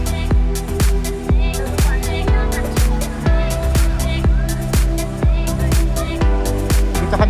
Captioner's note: foreign